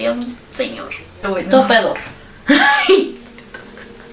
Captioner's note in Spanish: risas